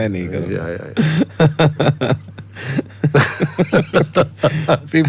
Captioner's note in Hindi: हंसी